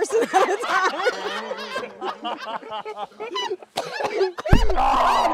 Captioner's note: laughter